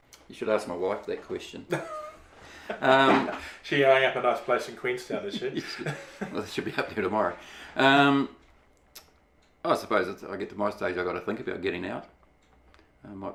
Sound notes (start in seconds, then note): 1.7 laughs